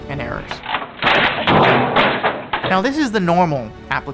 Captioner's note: computer thudding